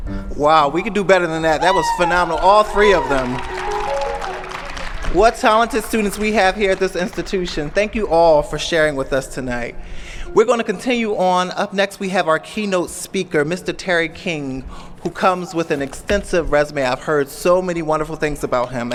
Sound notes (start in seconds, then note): 3.4 applause & cheers